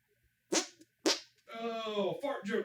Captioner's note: hand fart x4